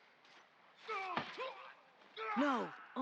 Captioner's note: screams